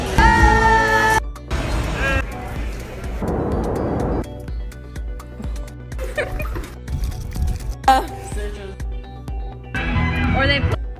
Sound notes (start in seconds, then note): 0.0 electronic music; 3.4 plane engines; 5.2 upbeat music; 5.9 giggling; 8.2 upbeat music